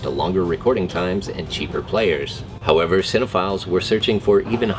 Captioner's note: whispers